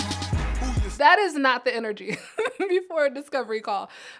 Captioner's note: chuckles